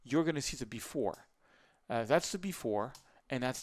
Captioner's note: clicking